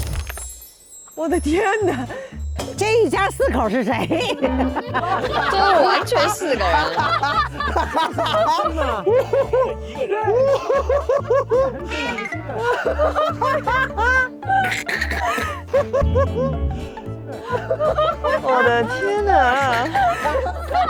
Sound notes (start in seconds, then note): 12.3 can't stop laughing; 15.8 laughing too hard